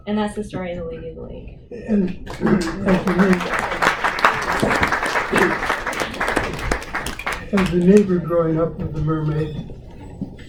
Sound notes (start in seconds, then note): 5.4 applause